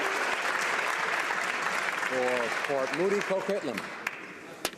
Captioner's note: applause